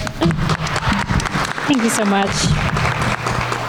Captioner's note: everyone applauding